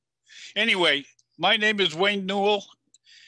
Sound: speaking Passamaquoddy language

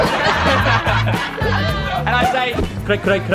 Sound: laughter

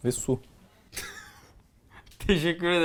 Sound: laughter

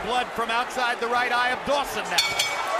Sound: bell dinging

